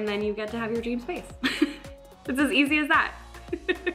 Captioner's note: laughs